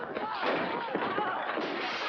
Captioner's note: smash; glass smashing